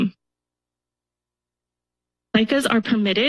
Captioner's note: pause